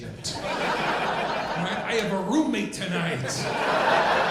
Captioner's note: audience laughing